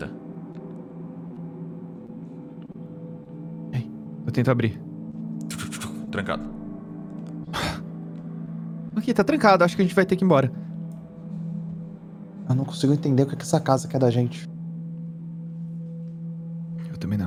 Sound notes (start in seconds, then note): 7.1 click; 7.5 sighs